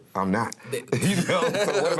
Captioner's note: laughter